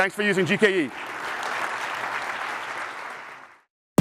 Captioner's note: applause